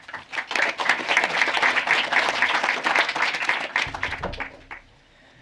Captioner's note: applause